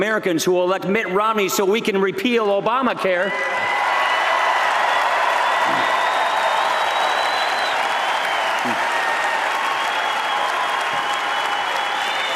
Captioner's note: applause